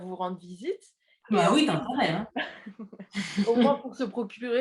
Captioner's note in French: rires